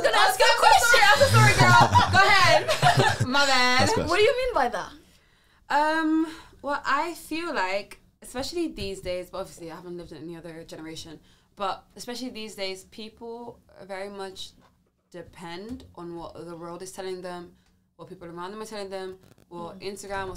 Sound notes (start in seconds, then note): 4.9 laughs